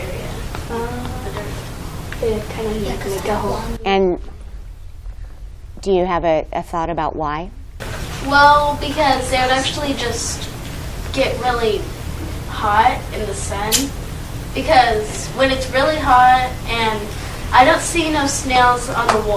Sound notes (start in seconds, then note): 1.7 students Whispering